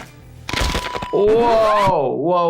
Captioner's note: bones cracking